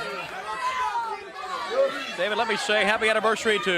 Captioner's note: crowd chatter